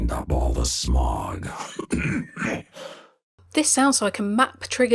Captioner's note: coughing; voiceover